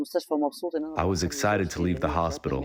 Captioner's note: through translator